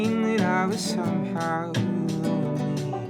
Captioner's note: birds chirping